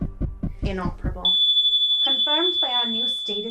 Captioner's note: flatline beep